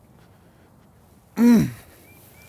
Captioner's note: grunts